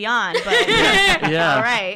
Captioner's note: laughs